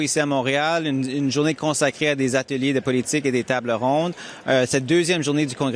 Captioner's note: speaking french